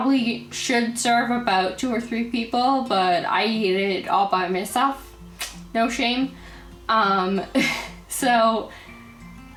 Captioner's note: haha